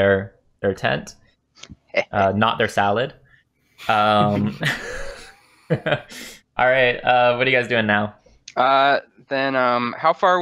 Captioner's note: laughter